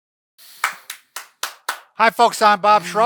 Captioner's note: clapping